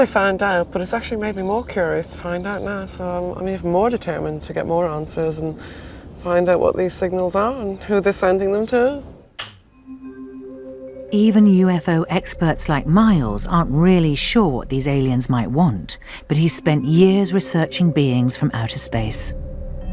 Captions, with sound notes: I'm glad I found out, but it's actually made me more curious to find out now. So, I'm even more determined to get more answers, and find out what these signals are, and who they're sending them to. - [Voiceover] Even UFO experts like Miles, aren't really sure what these aliens might want, but he's spent years researching beings from outer space.